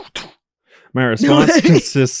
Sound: laughs

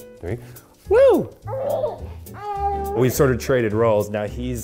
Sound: giggles

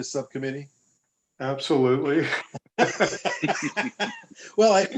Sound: laughter

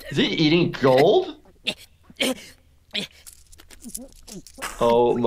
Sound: Cartman gasping

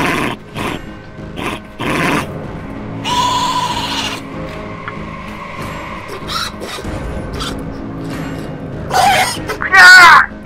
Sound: bird Sounds

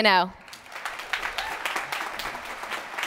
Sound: applause

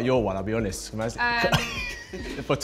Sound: chuckles

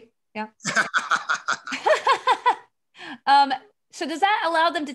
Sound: laughing

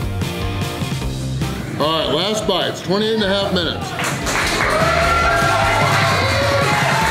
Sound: crowd cheering

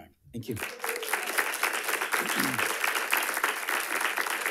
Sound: audience applauding

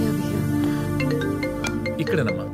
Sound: phone ringing

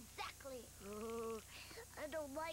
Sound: teeth chattering

